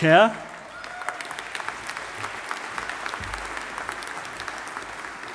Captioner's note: audience applauding